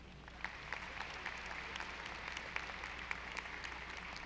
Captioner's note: audience applauding